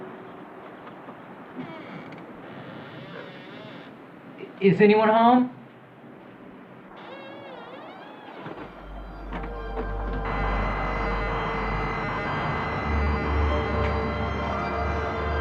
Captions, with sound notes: (door creaks) Is anyone home? (ominous music) (machinery humming)